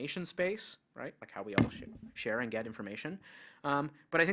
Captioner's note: bumps mic